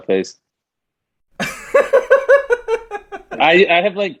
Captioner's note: laughs